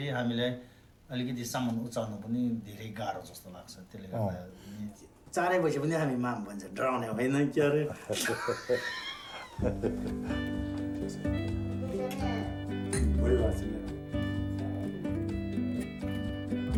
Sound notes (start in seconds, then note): 7.8 laughter; 9.6 slow music; 10.7 overlapping chattering